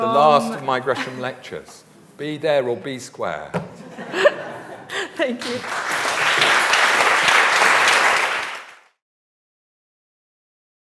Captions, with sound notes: the last of my Gresham lectures. Be there or be square. (audience laughs) - Thank you. (audience applauds)